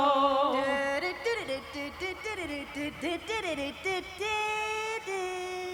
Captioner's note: vocal bugle call